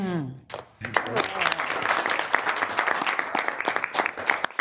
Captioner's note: group applauds